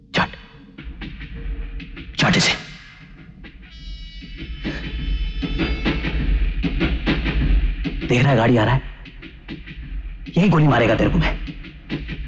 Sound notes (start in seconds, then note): 4.4 train horn blares